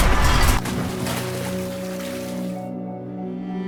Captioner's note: water Splash